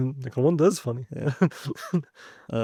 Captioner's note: laughs